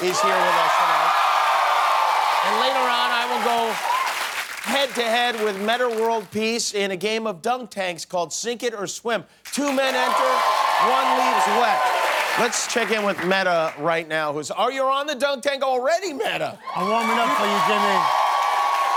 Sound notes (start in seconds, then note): 0.0 cheering; 16.6 cheering